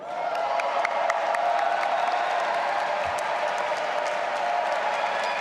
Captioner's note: audience applauding and cheering